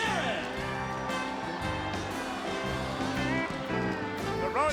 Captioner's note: audience cheering; gentle music